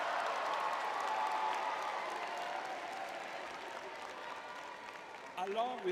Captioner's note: cheering